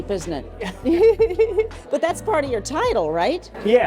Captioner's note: both laughing